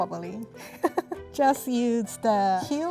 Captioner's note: laughing